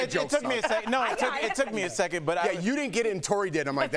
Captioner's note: laughter